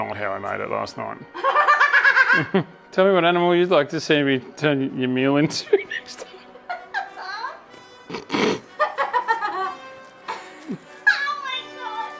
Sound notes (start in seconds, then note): 1.4 laughing; 5.6 giggle; 8.0 laughing